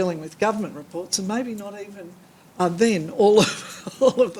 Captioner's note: laughs